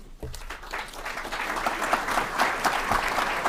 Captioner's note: applause